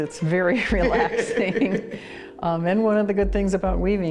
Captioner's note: both laugh